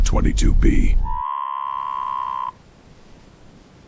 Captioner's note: classic Creature Noise